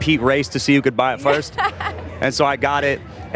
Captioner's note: laughs